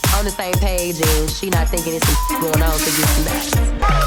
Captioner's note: beep